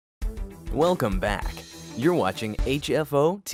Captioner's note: voice-over